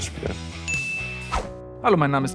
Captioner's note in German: Klingeln